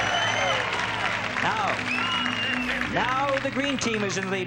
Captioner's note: audience claps and cheers